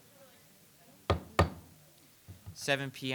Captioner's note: gavel pounding